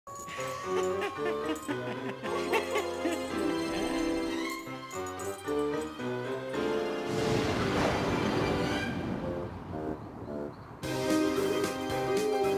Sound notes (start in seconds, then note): 7.1 thunder